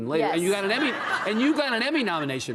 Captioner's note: audience laughing